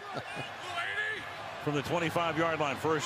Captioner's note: chuckles